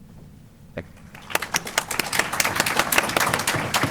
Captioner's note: applause